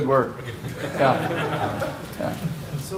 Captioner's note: laughter